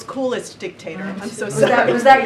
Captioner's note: laughter